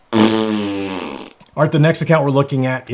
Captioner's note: blows raspberry